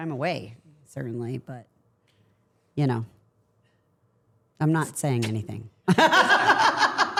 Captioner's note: laughing